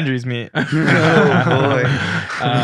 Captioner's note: group laughing